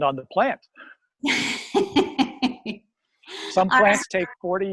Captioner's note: laughs